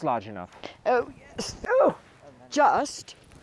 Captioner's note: grunts